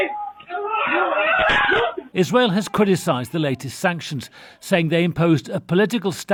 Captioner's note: screaming